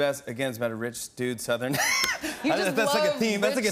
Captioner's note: laughs